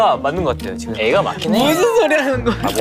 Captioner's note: frustrated